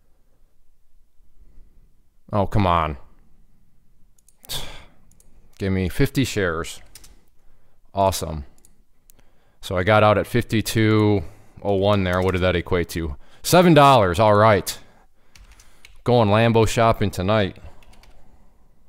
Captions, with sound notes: Oh, come on. (sighing) Gave me 50 shares. Awesome. So, I got out at 52.01 there, what did that equate to? Seven dollars, all right. Going Lambo shopping tonight.